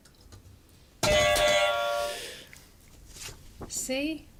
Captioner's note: buzzer